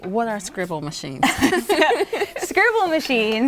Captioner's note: both laugh